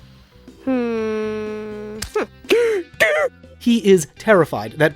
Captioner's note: gasp